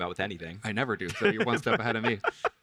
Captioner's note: both laugh